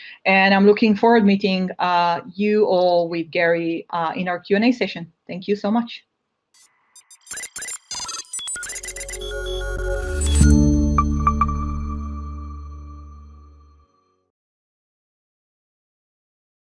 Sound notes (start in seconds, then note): 6.9 device beeping; 8.6 dynamic music